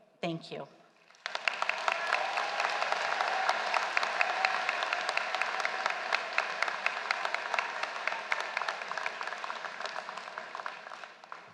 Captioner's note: applause